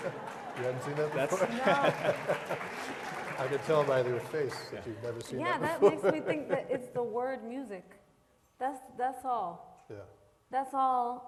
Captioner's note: laughter